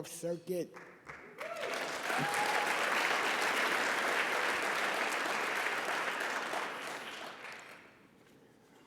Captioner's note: applause and Cheers